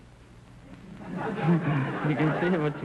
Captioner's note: audience laughter